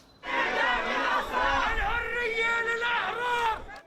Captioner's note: chanting